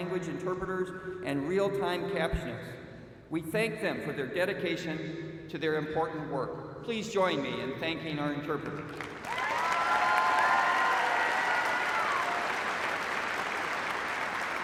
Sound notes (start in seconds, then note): 11.4 cheers and applause